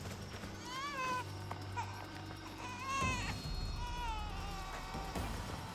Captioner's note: baby crying